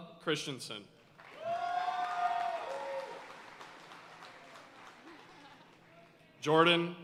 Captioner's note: audience cheering and applauding